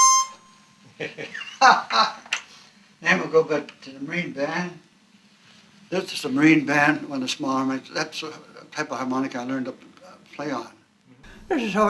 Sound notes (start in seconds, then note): 1.0 laughs